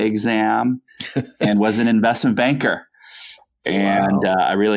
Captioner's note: laughs